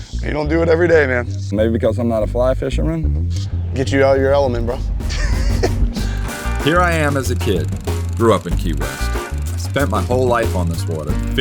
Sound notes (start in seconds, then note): 4.8 laughs